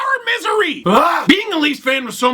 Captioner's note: audible frustration